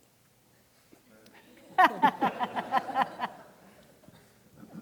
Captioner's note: audience laughing